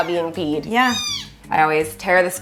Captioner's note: cat meowing